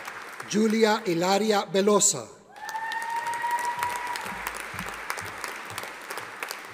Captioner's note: audience applauding